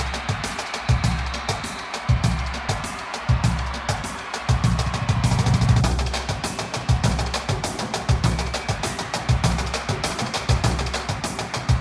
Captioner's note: crowd cheering